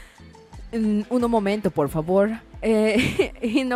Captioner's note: chukles